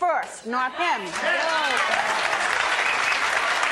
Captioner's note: applause